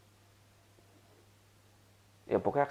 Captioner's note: silence